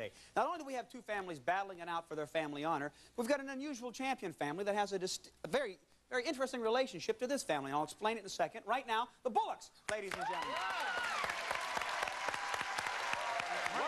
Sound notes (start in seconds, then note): 9.9 applause